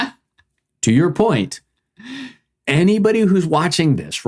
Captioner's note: laughing